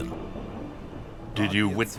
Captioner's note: thunder rumbles